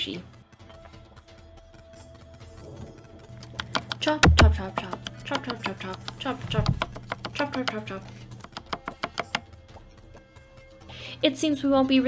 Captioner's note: chopping Noises